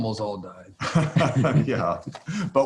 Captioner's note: Larry and J.B. laughing